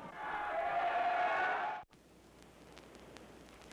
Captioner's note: cheering